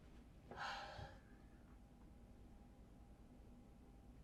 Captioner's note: Claire sighs